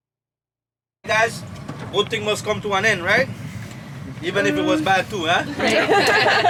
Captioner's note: laughing